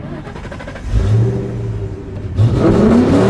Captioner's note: engine starts perfectly; series of revving up to redline